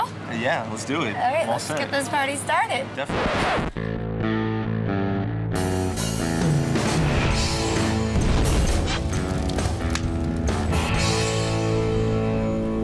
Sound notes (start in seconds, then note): 3.0 record scratching; 4.1 rock music